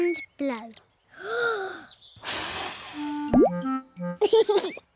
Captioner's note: takes big breath and blows; laughs